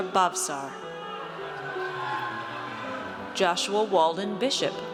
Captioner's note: audience cheers